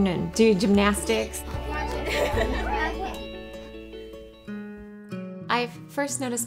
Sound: family chattering and laughing

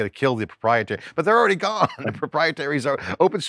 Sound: laughs

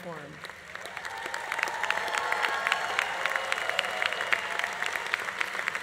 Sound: audience applauding; audience cheering

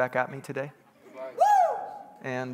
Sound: congregants bustling

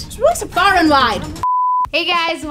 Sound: beep

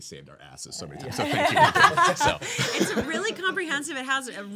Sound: laughing

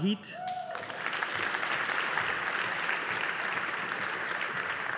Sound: audience applauding

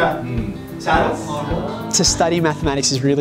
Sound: students exclaim

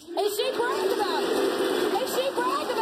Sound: audience jeering

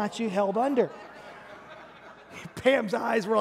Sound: congregation laughing

